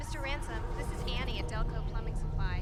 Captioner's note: beeping; voiceover